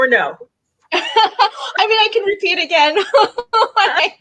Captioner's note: laughs